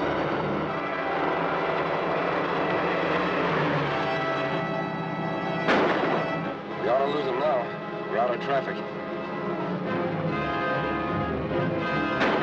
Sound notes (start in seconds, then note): 0.2 dramatic music; 5.6 gun banging; 10.1 dramatic music